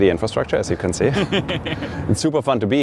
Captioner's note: laughing